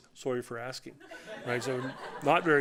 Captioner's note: laughter